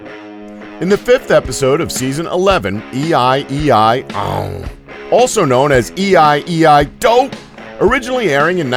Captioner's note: annoyed Grunt